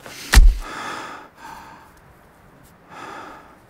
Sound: breathing deeply

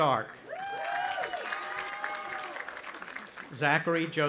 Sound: audience applauding and cheering

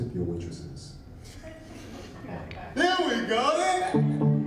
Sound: audience laughing

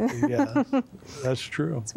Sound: giggle

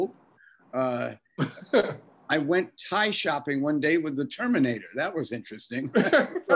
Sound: Bob laughing

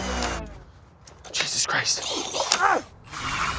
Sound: auger stalling

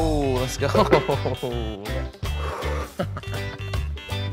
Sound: laughing

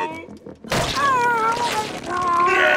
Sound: groaning

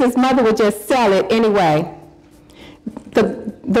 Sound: none

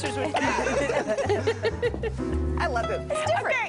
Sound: laughter

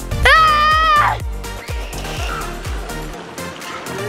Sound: yelling

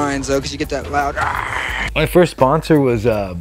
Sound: growls

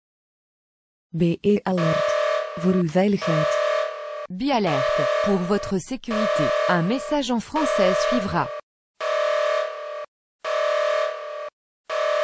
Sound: message in dutch and french, alarm

